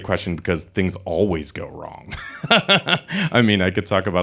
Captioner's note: chuckles